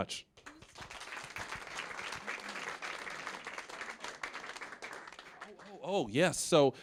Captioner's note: applause